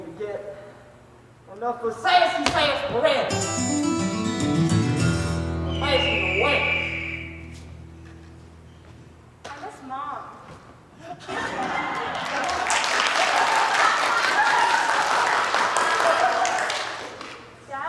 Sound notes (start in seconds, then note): 5.6 eagle Screech; 15.6 applause